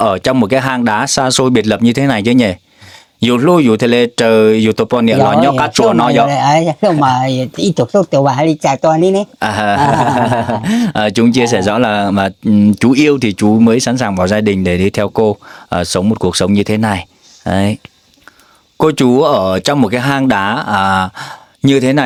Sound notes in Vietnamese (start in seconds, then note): 9.4 tiếng cười